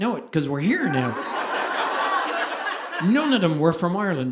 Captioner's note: audience laughing